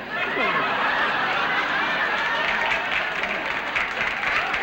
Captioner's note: applause